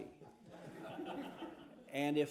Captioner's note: laughter